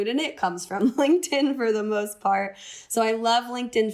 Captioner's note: laughter